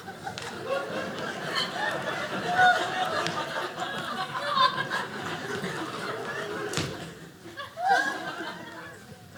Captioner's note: audience laughing